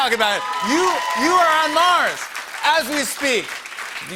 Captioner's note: cheers and applause